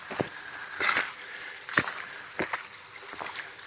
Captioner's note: footsteps